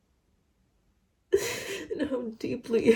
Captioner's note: sniffles, inhales shakily; cries